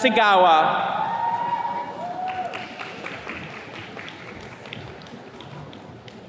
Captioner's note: attendees cheers and claps